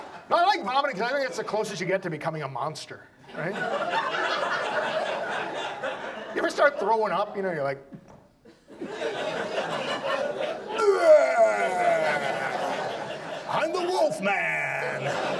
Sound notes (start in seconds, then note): 0.2 audience laughs; 3.3 audience laughs; 13.4 audience laughs; 13.4 imitates growling monster